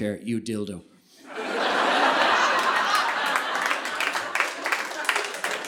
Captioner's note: audience laughing